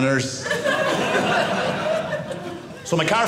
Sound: audience laughing

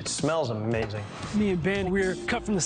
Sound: air whooshes

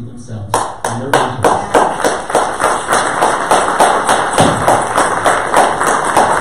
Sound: audience applause

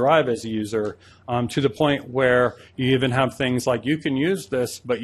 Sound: none

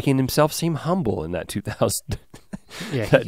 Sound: laughing

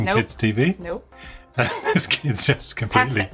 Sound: laughs

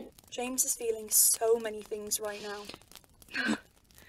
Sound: sniffles

